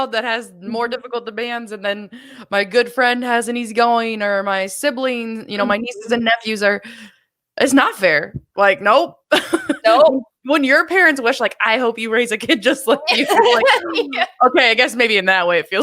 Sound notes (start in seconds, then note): 8.8 laughs; 13.0 laughs